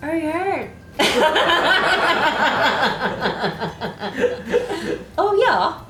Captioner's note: laughs